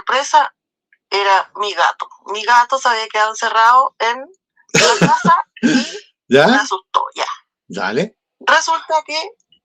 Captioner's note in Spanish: risas